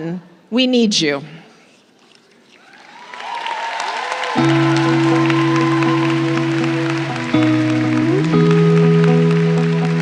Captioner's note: applause